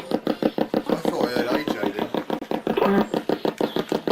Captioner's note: ghost box buzzing